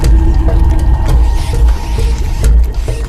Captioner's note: rats squeaking